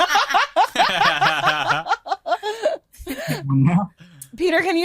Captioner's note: group laughing